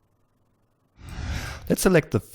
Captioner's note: whoosh